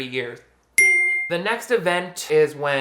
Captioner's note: sound dings